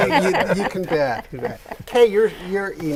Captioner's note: laughing